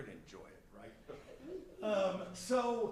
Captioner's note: chuckling